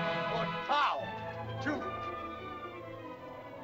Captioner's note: dramatic music; speaking in caveman language; suspenseful music